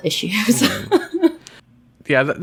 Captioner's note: laughs